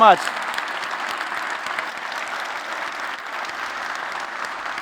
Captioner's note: applause